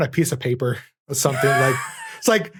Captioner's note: wheezes